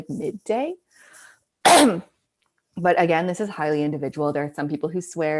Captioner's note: coughing